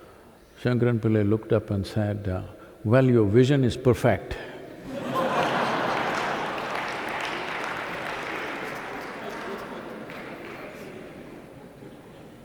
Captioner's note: laughter/Applause